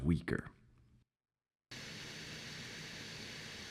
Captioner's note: water hissing